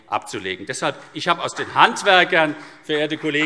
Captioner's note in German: Vereinzelter Beifall CDU und BÜNDNIS 90/DIE GRÜNEN